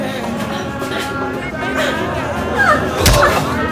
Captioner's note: people struggling